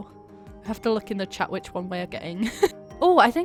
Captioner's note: laughs